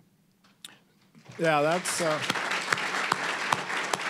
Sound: applause

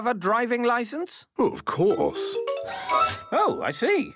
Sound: mechanical arm whirring

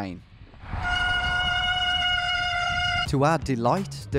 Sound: siren squealing

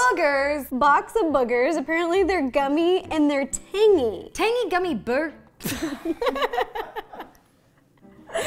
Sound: both Laugh; still Laughing

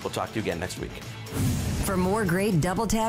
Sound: logo whooshes; voiceover

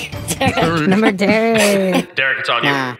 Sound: laughs

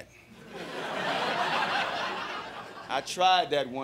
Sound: crowd laughing

